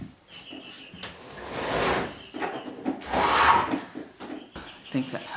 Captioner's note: birds chirping; window sliding